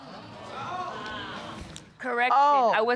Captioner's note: audience exclaiming